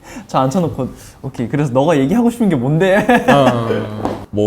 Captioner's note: haha